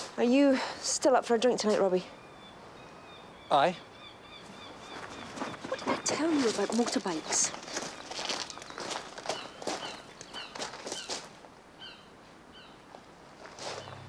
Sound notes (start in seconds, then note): 9.8 birds calling